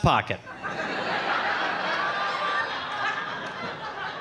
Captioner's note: audience laughing